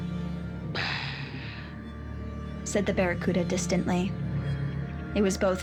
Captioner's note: soft growling